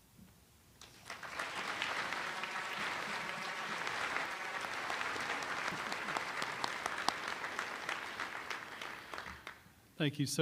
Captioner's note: applause